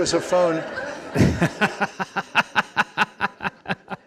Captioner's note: laughing